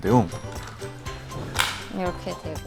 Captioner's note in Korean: 철컥!